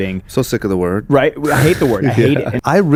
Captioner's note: laughs